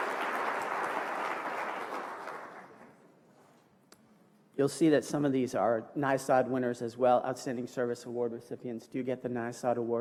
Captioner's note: applause